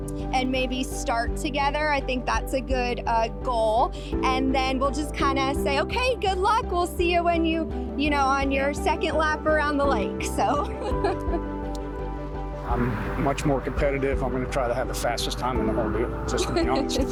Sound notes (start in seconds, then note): 10.6 laughs